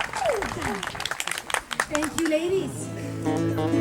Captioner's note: voiceover